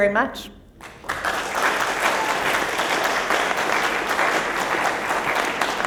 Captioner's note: applause